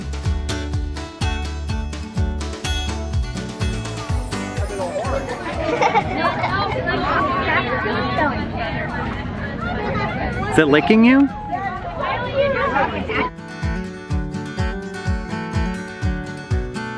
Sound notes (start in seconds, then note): 4.6 laughing; 12.8 guitar riff plays